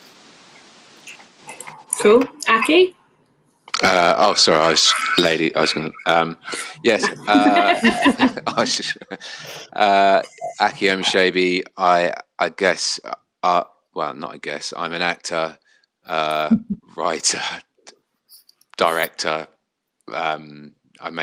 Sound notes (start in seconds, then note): 9.8 laughter